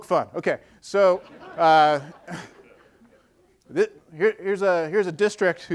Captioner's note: audience laughing